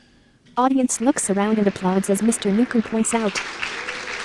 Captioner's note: applause